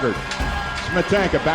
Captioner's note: crowd Noise